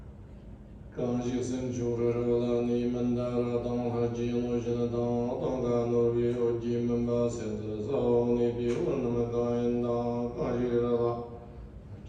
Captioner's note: is chanting prayers in Tibetan